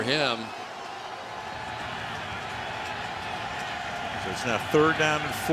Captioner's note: cheering